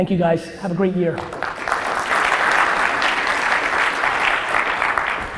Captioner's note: audience applause